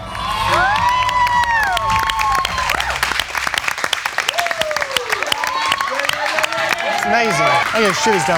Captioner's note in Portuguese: Aplausos